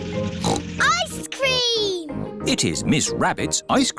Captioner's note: snorts